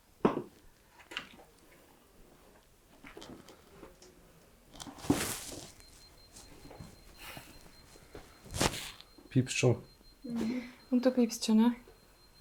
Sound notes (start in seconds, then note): 1.0 footsteps in the background